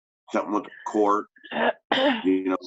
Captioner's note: clears throat